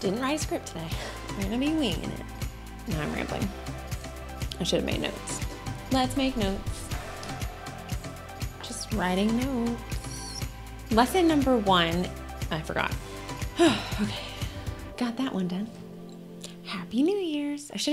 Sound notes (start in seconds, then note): 13.4 sighs